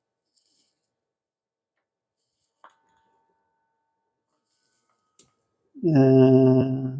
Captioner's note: silence